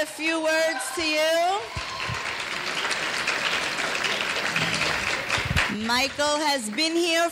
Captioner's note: cheering; clapping